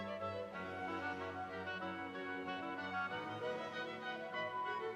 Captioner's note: none